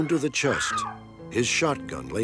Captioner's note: scream